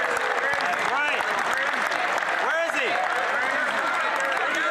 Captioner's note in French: voix de l'interprète